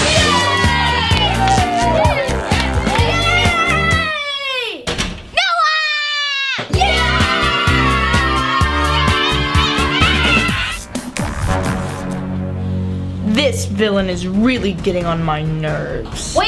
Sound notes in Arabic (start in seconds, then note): 0.0 الهتاف بصوت عال; 11.8 موسيقى مشبوهة